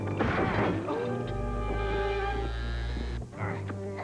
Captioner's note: gunshot; buzzing